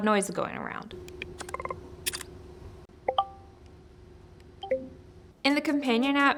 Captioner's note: electronic booping; shutter clicking